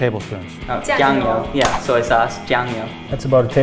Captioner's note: speaks foreign language